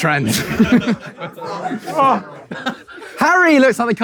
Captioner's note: people in room chuckling